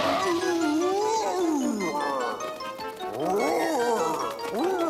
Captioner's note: growling